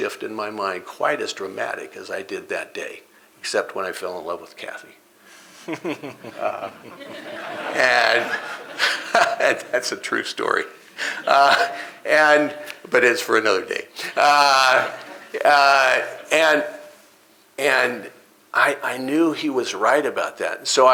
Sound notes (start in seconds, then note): 5.6 laughter